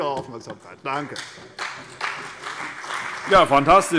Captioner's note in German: Beifall CDU und vereinzelt BÜNDNIS 90/DIE GRÜNEN